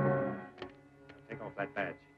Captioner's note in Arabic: صوت البندقية